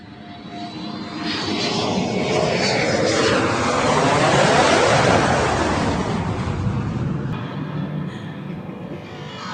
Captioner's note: rocket noise